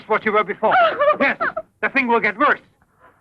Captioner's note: sobbing